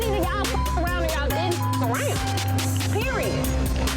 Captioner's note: beep